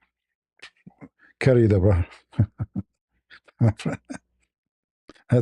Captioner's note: ketawa